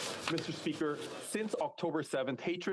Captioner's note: speaking French